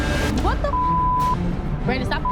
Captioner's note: beep